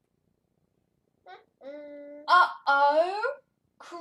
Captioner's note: babbling